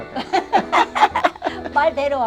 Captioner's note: both laughing